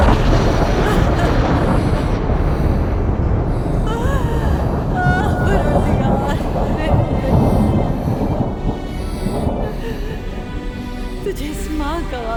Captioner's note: mother cries